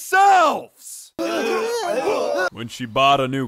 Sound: screams

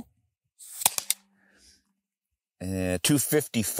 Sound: shot fired

